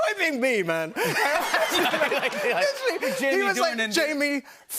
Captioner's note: laughter